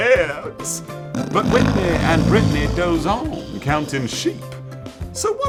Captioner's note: snoring